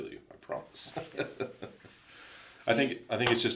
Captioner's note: laughs